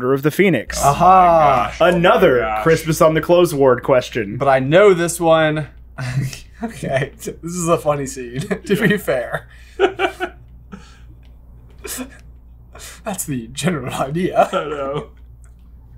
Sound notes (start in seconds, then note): 14.1 laughing